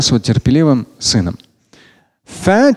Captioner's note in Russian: Говорит на арабском